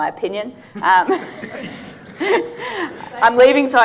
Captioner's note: audience laughing